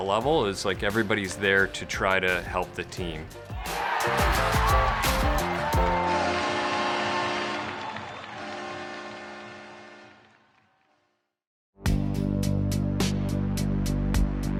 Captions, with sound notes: is like everybody's there to try to help the team. (crowd cheering) (crowd applauding) (dramatic music)